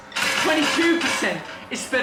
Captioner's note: candy clacking